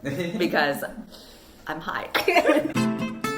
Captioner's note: laughs